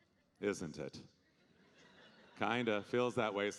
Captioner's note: audience laughing